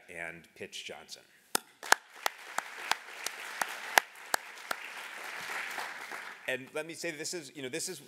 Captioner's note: applause